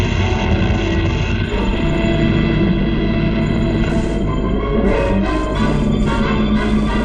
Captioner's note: machine noises